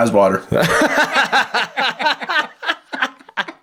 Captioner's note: laughing